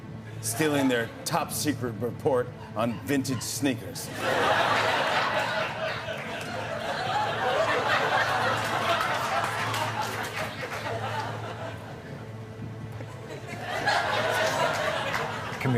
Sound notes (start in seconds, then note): 4.0 laughter; 7.2 laughter and applause; 13.2 laughter